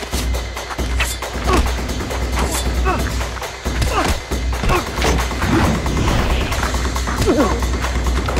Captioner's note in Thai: เสียงการต่อสู้